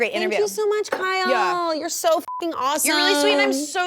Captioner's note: beep